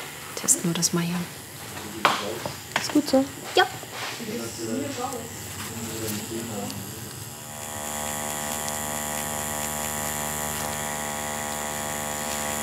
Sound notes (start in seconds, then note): 4.7 conversations in the background